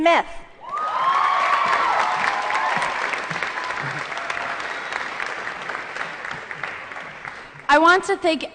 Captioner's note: applause & Cheering